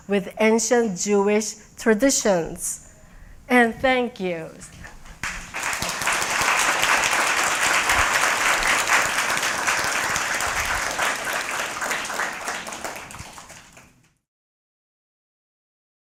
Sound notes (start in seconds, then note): 5.2 applause